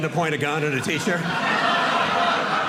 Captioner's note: audience laughing